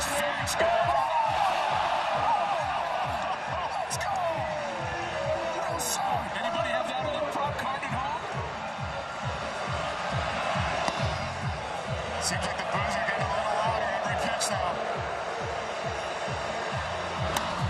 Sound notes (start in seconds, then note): 0.2 booing; 2.2 cheering; 5.1 crowd noise